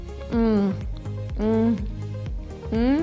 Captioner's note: moaning